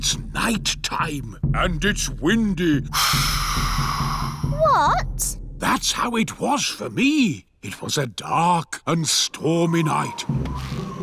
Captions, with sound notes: Ah, but it's night time. And it's windy. (BLOWS AIR) -What? -That's how it was for me. It was a dark and stormy night.